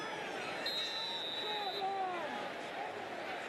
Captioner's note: whistle